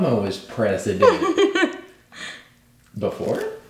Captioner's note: laughing